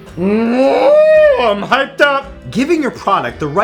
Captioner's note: moos